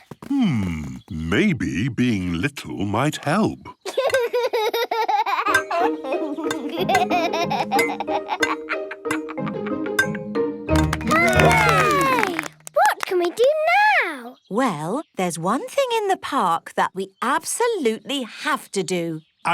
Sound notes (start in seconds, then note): 3.8 laughs; 10.8 all cheer